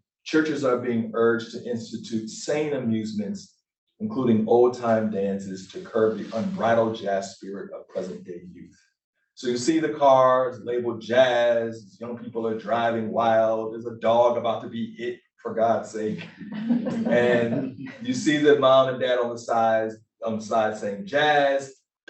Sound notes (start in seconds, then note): 16.5 laughter